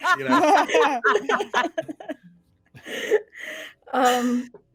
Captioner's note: everyone laughs